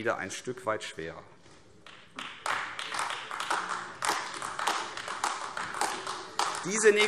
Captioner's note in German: Beifall AfD